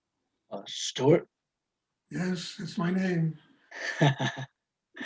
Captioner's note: laugh